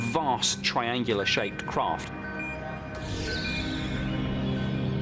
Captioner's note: radar beeping